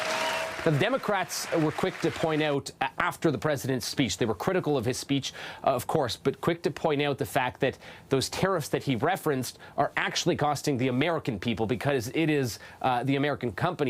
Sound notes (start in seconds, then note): 3.5 applause